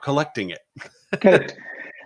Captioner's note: laughing